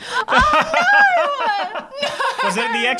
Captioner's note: laughing